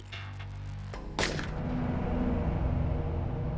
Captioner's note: gun fires